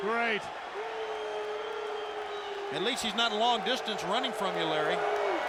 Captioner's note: applause